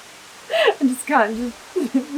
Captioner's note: laughter